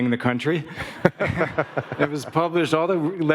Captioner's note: Barack laughing